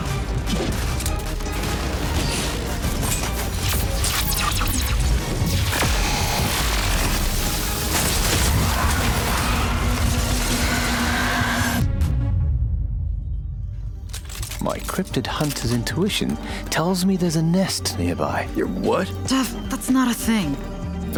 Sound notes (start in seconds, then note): 0.1 vampires screeching; 0.4 explosions; 7.4 electricity crackling